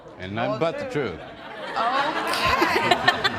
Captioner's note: laughter